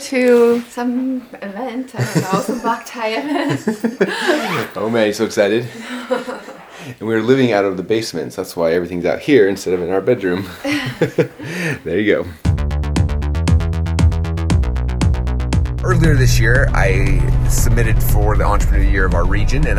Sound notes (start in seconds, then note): 10.6 laughs